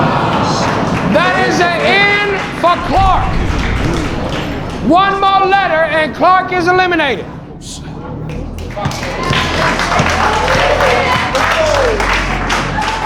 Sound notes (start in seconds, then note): 8.2 spectators applauding